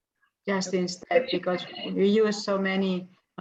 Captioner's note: static interference